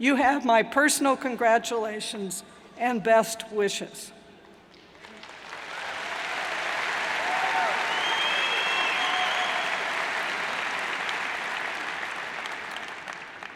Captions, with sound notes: You have my personal congratulations and best wishes. (cheers and applauds)